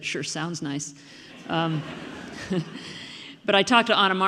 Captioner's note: audience laughing